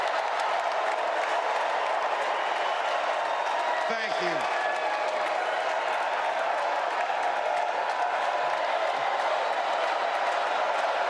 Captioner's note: cheers and applause